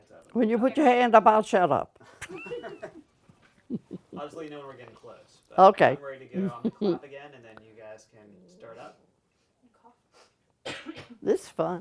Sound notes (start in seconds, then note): 2.0 laughter